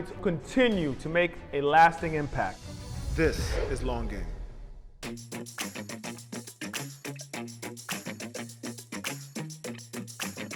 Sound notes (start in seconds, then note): 2.1 air whooshing; 5.0 upbeat music